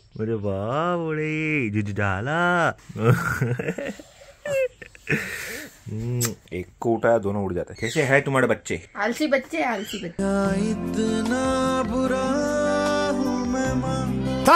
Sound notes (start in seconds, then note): 2.9 laughing